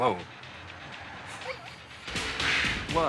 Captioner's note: Leek laughing